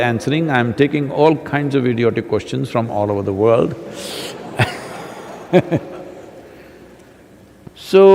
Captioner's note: laughter